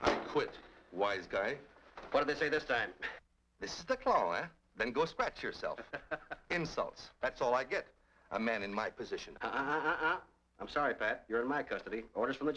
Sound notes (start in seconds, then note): 5.8 Donovan laughs